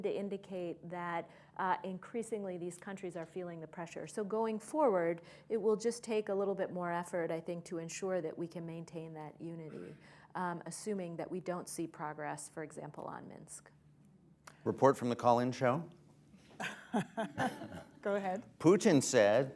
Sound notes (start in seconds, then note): 16.5 laughter; 16.5 laughs